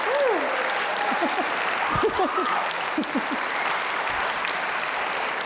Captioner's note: audience cheers and applauds